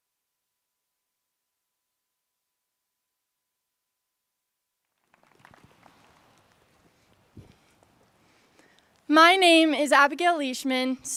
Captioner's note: applause